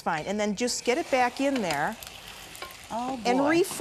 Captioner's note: sizzling